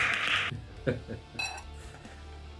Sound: clapping; chuckles

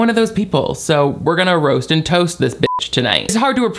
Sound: beep

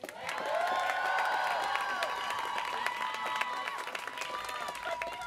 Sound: students cheering

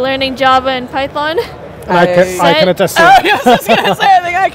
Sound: laugh

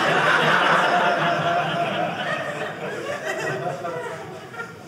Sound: audience laughing

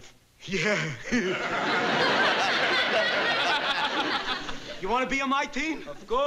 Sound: nervously laughs

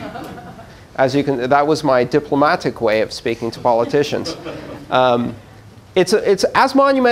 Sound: laughter

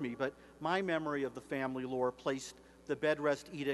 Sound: none

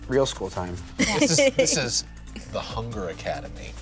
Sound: laughs

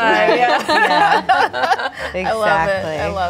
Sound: laughing

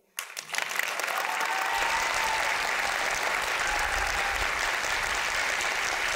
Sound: applause

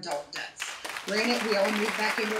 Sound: audience applauding

